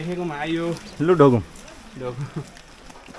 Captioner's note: laughter